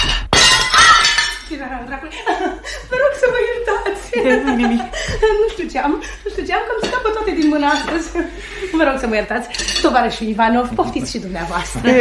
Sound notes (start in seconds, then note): 0.0 plate breaks